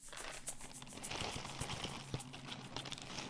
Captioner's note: bag crinkling